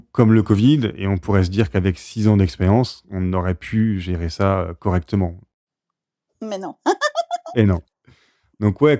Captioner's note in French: rires